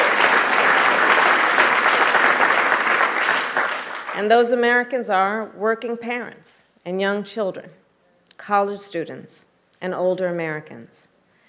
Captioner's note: applause